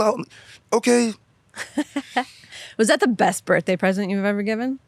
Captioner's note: laughs